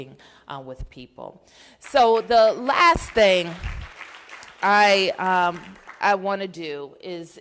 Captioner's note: applause